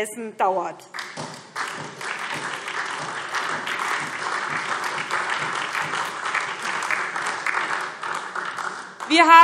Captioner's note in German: Beifall SPD und DIE LINKE